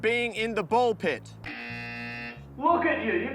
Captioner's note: buzzer